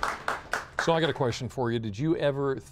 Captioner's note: applause